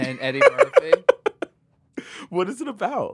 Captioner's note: laughs